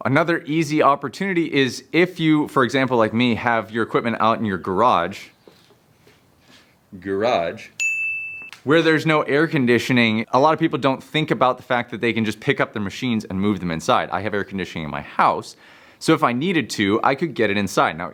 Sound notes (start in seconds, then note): 7.8 bell dings